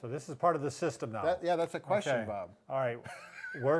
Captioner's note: laughs